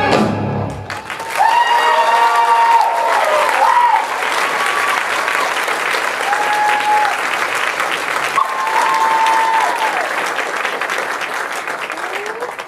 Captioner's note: audience cheers and applause